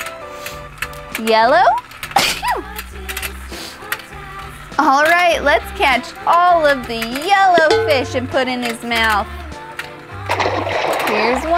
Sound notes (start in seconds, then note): 2.2 sneezes; 10.4 water splashes